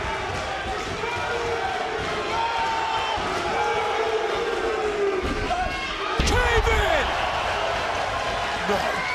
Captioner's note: crowd boos